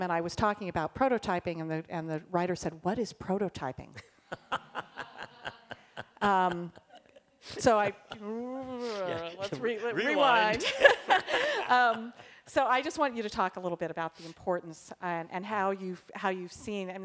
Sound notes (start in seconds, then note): 4.2 laughter; 10.6 laughs